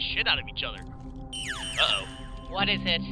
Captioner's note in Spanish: sonido de alarma